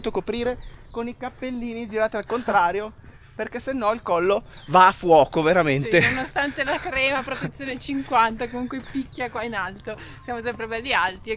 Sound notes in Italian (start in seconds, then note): 5.9 risate